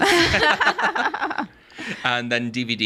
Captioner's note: all laughing